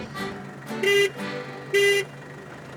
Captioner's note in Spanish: Pito de carro